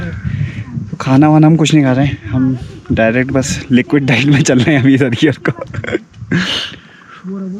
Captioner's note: laughs